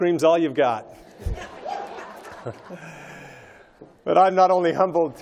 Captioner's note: laughter